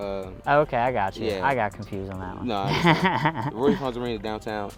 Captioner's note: laughs